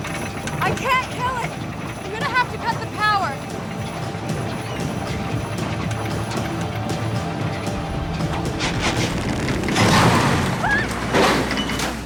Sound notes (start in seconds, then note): 9.4 thud